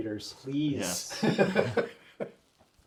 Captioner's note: all laugh